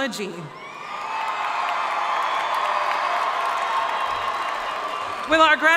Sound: audience cheering and applauding

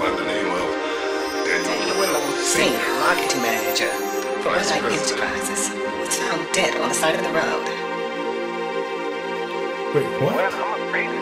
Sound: repeating voices, taking about the tragedy

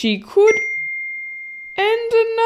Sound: ding!

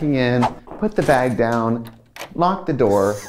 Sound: door locks

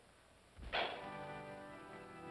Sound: pop sound; organ plays slowly

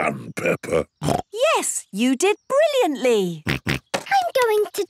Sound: snorts

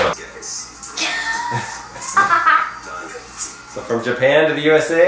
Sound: laughter

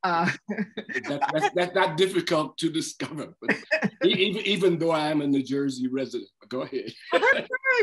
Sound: laughter

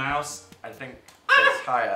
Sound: Phil yelps

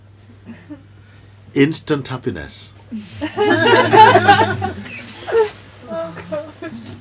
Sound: laughter

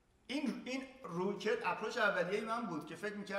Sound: speaking in farsi

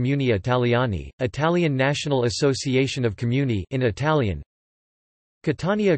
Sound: in Italian

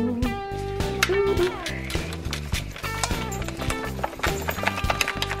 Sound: plastic bowl crinkling

